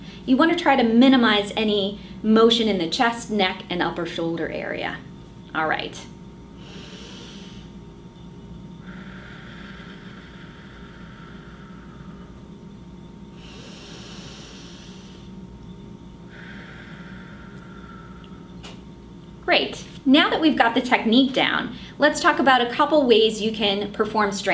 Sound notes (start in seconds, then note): 8.4 breathes in and out